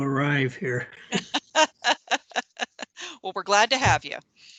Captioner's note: laughing